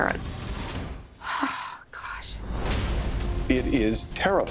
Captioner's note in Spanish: suspira